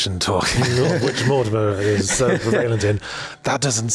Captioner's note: laughs